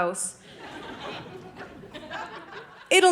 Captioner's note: audience laughing